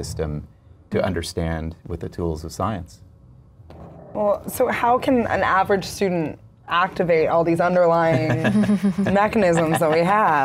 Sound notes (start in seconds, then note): 8.1 laughs